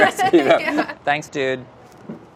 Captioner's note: laughs